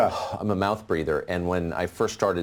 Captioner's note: breathes out